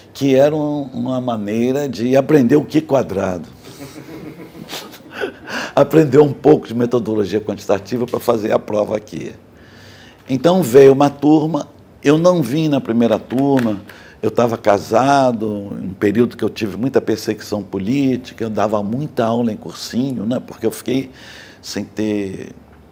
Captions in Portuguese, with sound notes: que eram uma maneira de aprender o Q quadrado [risos] aprender um pouco de metodologia quantitativa para fazer a prova aqui Então veio uma turma Eu não vim na primeira turma Eu estava casado Um período que eu tive muita perseguição política Eu dava muita aula em cursinhos, porque eu fiquei sem ter